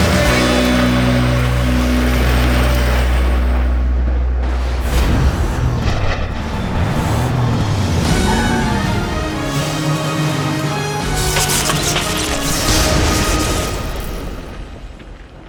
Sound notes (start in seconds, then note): 6.0 lightning crashing; 6.0 tires screeching; 9.2 electricity crackling; 10.4 bright instrumental music